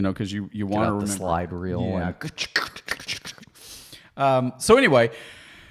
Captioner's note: both snapping